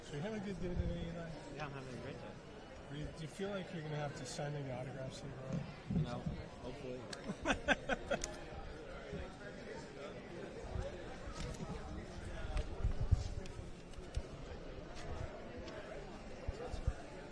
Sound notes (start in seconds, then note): 7.2 laughter; 8.6 background chatter